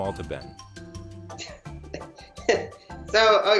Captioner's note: chuckles